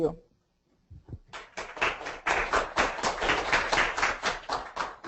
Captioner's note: audience clapping